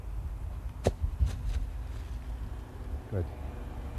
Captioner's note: fruits thud